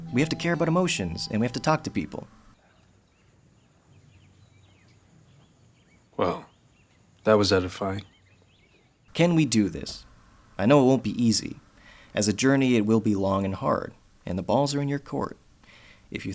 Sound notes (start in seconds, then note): 2.6 birds chirping